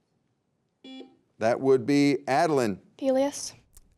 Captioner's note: beep